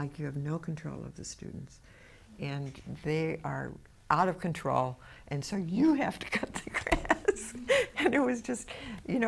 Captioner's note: laughs